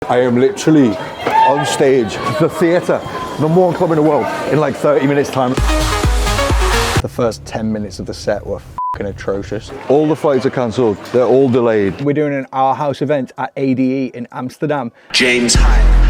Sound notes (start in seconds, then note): 5.4 upbeat club music; 8.8 beep